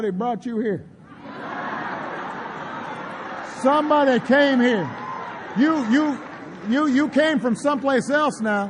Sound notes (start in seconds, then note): 1.1 laughter; 2.7 applause